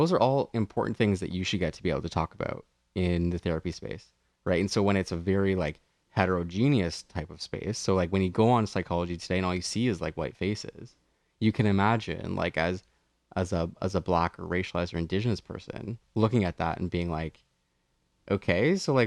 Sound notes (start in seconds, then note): none